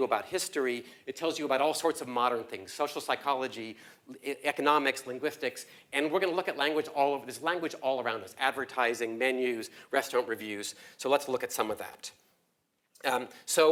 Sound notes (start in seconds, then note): none